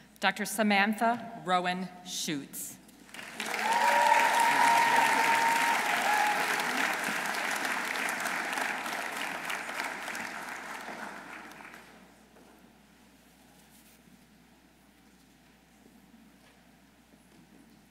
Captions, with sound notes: Dr. Samantha Rowan Schuetz. -(audience cheering) -(audience applauding)